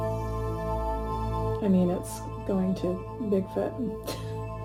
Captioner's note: laughing